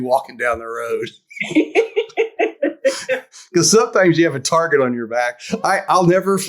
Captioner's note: laughs